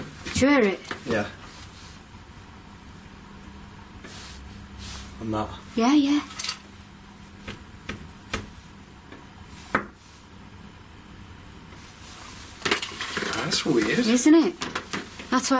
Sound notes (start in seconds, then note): 0.1 tapping; 8.0 knocking